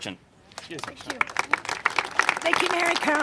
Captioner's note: congregation applaud